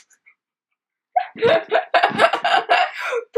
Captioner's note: laughs